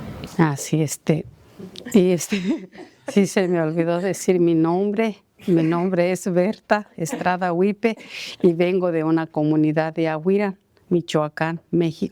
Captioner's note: speaking spanish